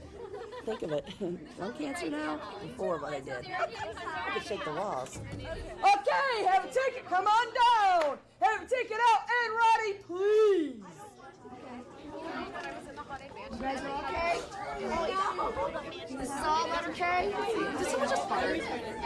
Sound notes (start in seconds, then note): 10.7 girls chattering